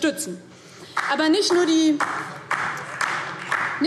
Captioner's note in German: Beifall DIE LINKE